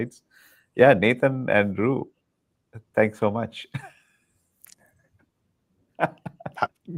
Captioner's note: laughing